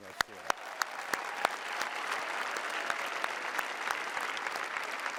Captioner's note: cheering